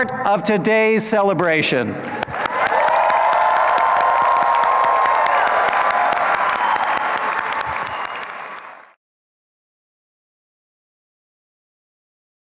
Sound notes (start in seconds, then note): 2.1 applause and cheering; 2.2 applause